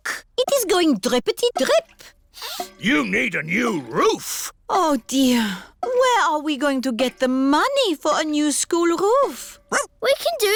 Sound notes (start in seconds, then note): 3.0 sniffs